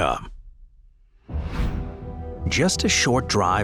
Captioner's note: screen whooshing